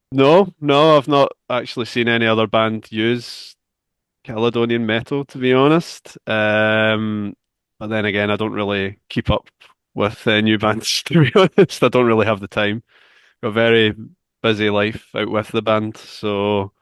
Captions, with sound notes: -No. I've not actually seen any other band use Caledonian metal, to be honest. But then again, I don't really keep up with new bands, [laughs] to be honest. I don't really have the time. Got a very busy life out with the band. So,